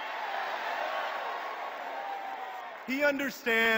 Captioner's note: cheers